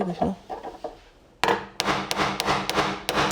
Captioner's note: hammering